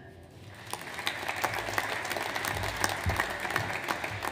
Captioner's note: audience applauds